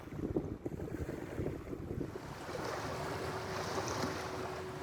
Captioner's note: waves splash